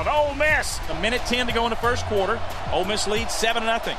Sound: voiceover

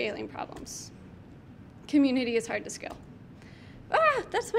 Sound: clicks mouse button; clicks mouse button

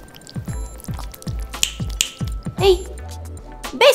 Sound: snaps

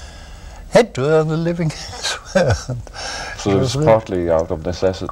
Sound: laughter

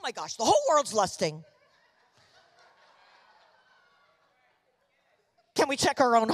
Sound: congregation laughing

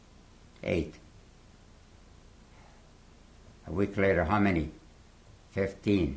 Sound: pauses for 3 seconds

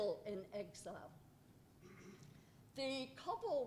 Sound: cough

